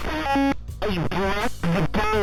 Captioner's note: glitching noise